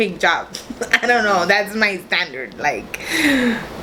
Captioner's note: laughs